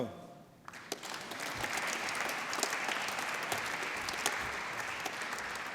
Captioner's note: applause